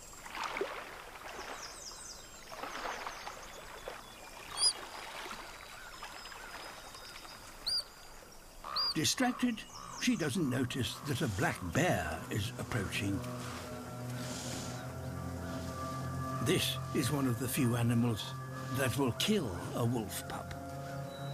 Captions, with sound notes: (HIGH-PITCHED TWEET) Distracted, she doesn't notice that a black bear is approaching. This is one of the few animals that will kill a wolf pup.